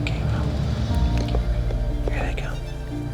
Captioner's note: whispering